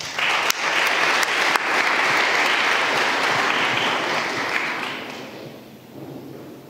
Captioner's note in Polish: oklaski